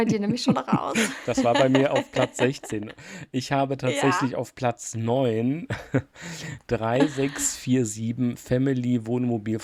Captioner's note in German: gelächter